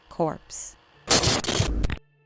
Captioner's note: television static